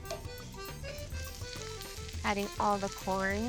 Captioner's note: sizzling